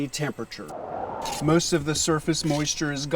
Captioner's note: wind whistling